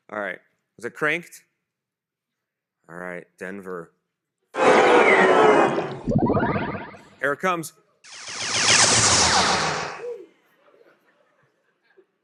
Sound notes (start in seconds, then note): 5.7 loud whoosh; 8.0 laser noises